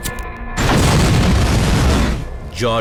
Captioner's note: explosion